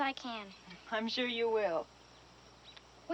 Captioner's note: pat